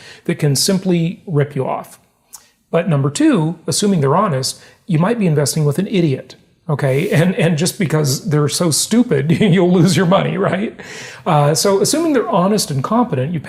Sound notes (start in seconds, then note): 9.4 laughs